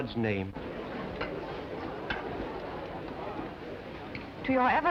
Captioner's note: people murmuring